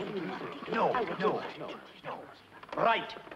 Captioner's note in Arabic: الدائنون يهمسون